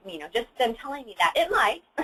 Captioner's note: laughs